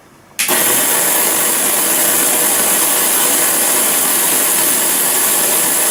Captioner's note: noisy gears